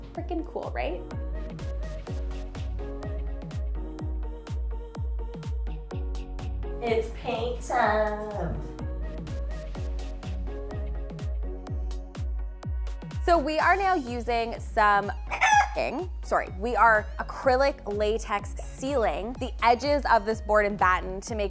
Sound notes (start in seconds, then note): 1.4 upbeat music; 9.5 upbeat music; 15.3 rooster crows